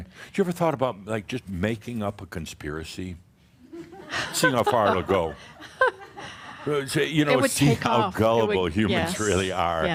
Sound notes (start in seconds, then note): 4.1 she chuckles